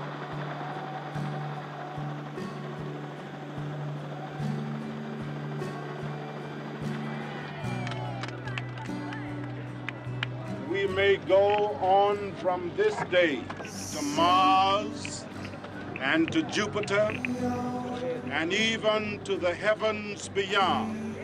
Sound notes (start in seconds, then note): 7.3 talking in background, applauding